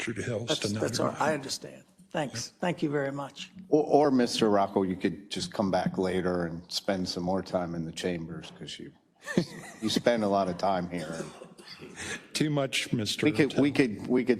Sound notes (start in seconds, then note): 9.2 laugh